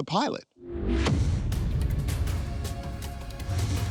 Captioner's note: graphic whooshes; intense ambient music